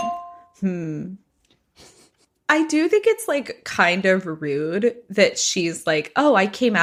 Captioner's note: bingbong